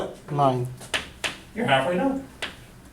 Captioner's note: voiceover